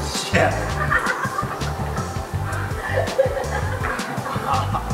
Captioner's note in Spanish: risa desde abajo